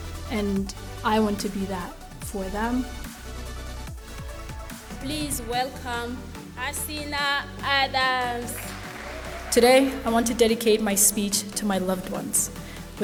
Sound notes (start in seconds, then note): 8.3 audience applauding; 8.5 audience cheering